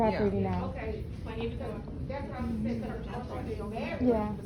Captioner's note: women murmuring